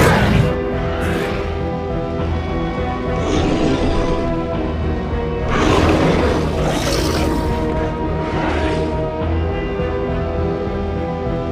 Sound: carnotaurus growls

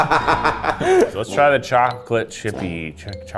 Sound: laughing

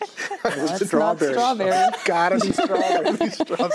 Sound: all laugh

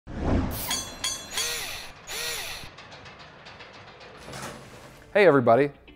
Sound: mechnical SFX

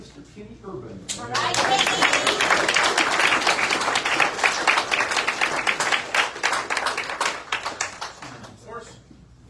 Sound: audience cheers and applauds

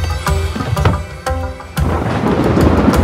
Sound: door closing; rain & thunders

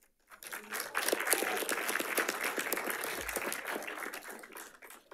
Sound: audience applauding

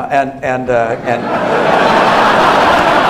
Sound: laughter

